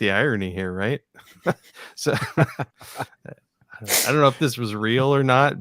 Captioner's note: laughing